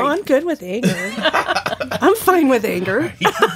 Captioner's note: laughing